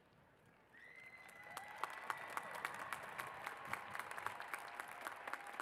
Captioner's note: cheers and applause